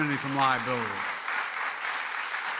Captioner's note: applause